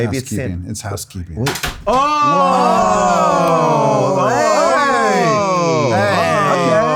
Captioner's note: door clatters; everyone exults